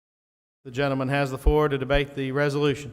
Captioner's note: voiceover